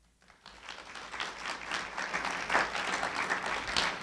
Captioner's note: applauding